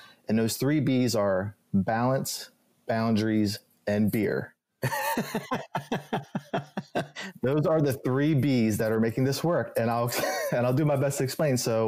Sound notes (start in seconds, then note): 4.8 both laughing